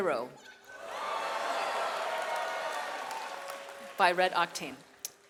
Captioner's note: audience cheers